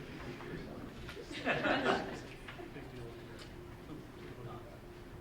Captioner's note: group chuckling